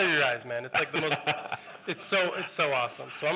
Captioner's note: laughter